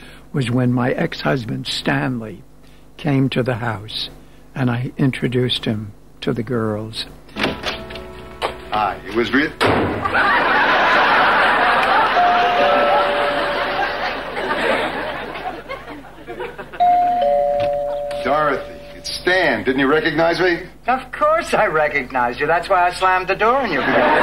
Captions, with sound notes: was when my ex-husband, Stanley, came to the house, and I introduced him to the girls. Hi, Elizabeth. (audience laughing) (doorbell ringing) Dorothy, it's Stan. Didn't you recognize me? Of course I recognized you. That's why I slammed the door in your bed.